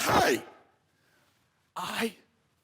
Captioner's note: soft breathing